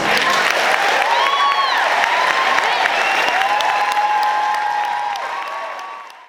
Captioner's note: clapping